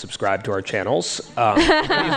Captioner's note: laughter